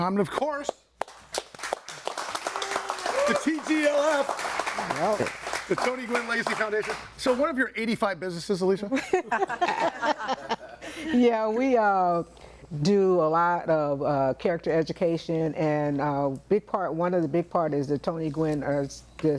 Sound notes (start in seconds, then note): 1.0 audience applauding; 8.9 all laughing